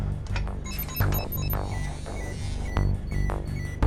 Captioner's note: device beeps